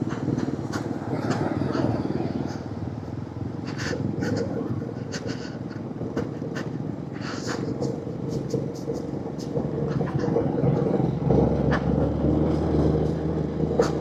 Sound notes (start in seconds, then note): none